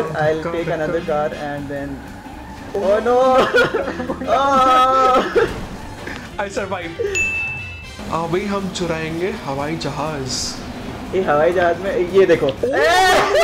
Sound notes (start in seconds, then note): 7.0 bell dinging; 8.6 speaking foreign language